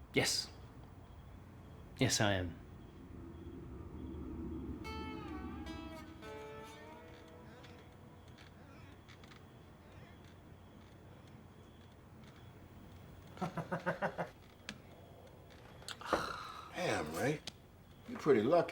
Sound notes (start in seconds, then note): 6.7 chair creaking; 13.4 ray laughs